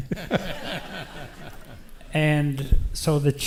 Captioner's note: audience laughs